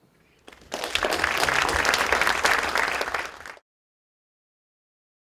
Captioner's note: applause